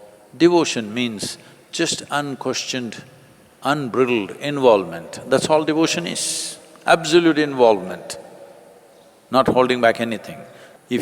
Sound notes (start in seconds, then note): none